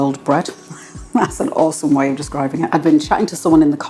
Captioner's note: laugh